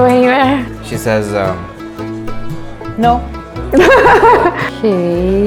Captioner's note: laughter